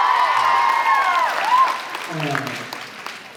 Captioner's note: cheers, applauds